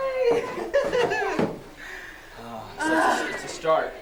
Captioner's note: giggling